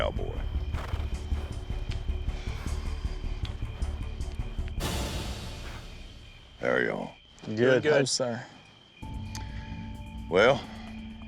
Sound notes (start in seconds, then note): 2.4 all sighing